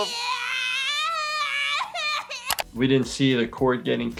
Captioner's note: baby screaming